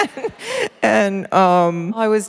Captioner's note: laughter